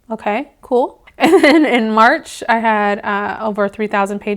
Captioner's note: laughing